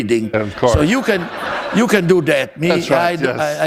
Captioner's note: laughter